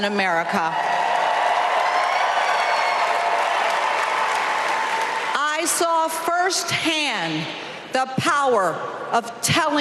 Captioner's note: applause